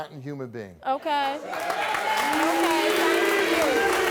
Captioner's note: cheering